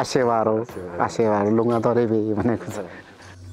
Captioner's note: limbu dialect